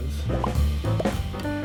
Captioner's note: gentle music; letters popping